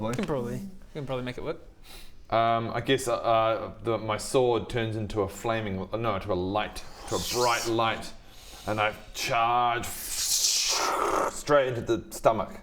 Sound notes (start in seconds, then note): 9.6 fwwrrzszsccshhchhh